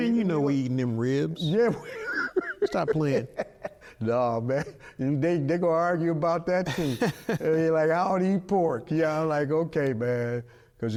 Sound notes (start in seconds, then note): 1.6 laughing; 6.0 laughing